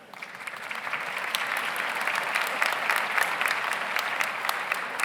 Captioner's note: audience applauds